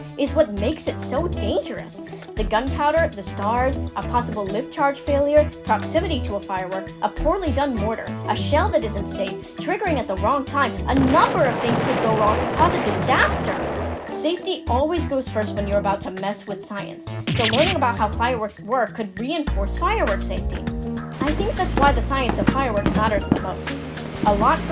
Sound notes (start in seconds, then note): 10.9 eight kabooms